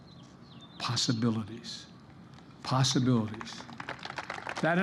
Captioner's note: applause